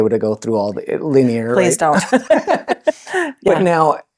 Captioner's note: laughing